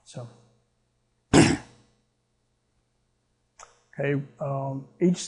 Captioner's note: clears throat